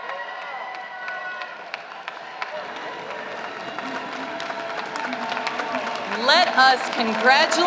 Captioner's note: applause